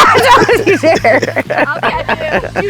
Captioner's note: all laughing